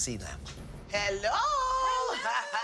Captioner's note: laughs